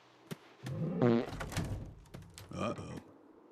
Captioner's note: Moose breaks wind